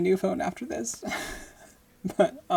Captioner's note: laughing